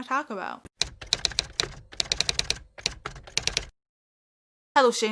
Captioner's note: typewriter Typing